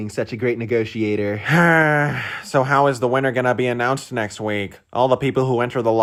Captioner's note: sigh